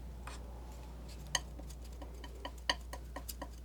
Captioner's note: tapping